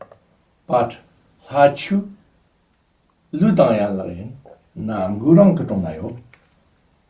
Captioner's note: tibetan